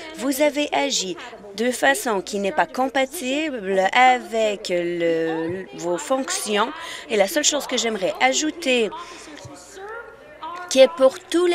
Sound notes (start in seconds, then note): none